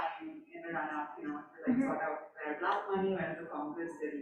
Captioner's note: faintly speaking